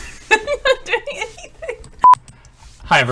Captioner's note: laughing